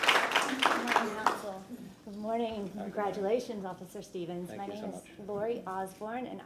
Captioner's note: applause